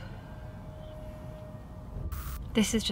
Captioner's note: sighs; static crackles